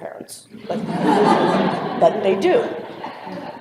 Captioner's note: laughter